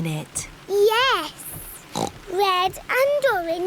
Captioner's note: oinks